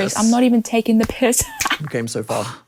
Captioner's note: laughs